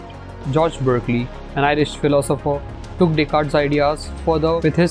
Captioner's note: voice-over